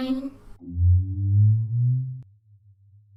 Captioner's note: hummmmmmm!